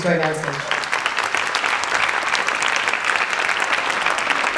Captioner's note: audience applauding